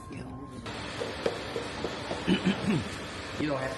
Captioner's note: knock knock knock